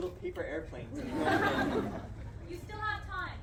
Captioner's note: crowd laughs